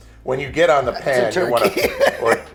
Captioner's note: laughs